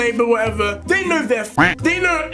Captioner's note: quack